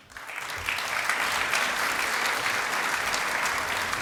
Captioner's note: applause